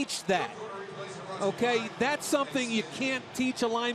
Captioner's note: pa announcement